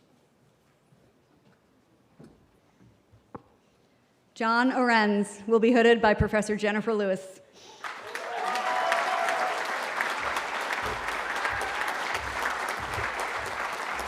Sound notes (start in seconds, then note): 7.8 cheering